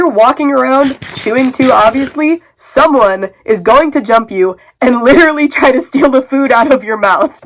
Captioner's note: edgy music; chewing sounds; laughing